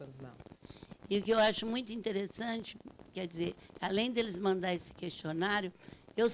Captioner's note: speaking Portuguese